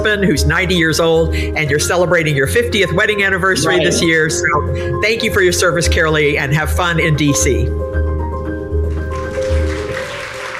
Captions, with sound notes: who's 90 years old and you're celebrating your 50th wedding anniversary this year. So thank you for your service, Carolee, and have fun in DC. [audience applauding]